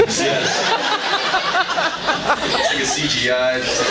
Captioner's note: laughs